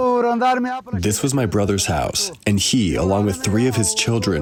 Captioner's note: through translator